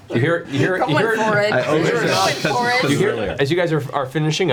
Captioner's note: all laugh